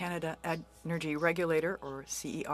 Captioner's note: speaking French